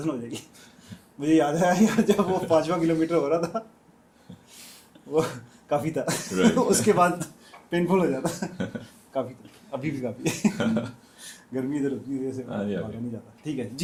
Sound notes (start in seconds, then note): 8.2 laughter